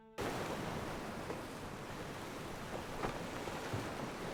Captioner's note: waves crashing